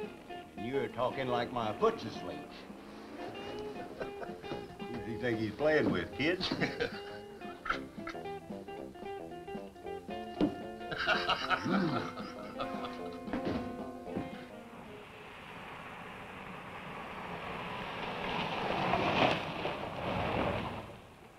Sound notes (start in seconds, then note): 3.2 Spook chuckles; 6.4 Spook chuckles; 10.8 Spook laughs; 11.6 Harris groans